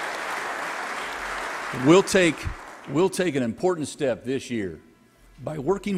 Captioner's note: applause